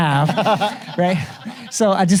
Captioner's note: audience laughs